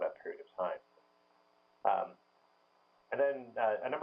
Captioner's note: pause